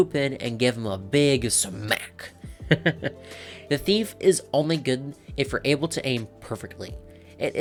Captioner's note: awkward laugh